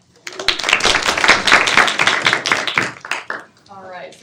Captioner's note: attendees clap